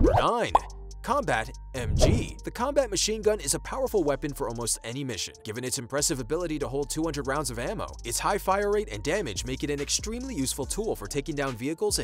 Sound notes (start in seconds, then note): 0.5 bubble popping; 1.8 whooshing